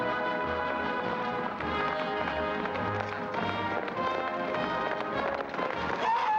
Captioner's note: hooves pounding; whooping excitedly